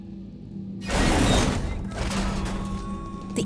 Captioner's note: clanking